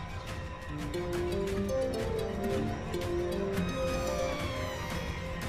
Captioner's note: cell phone ringing